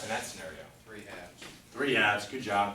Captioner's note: voiceover